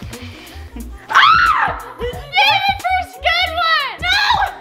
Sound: screams

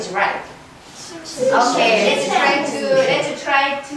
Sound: chattering

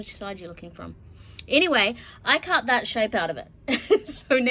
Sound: laughs

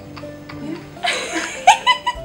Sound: laughing

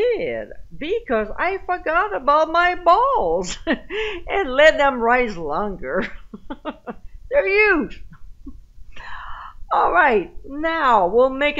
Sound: laughing

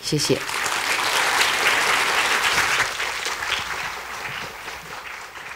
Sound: applause

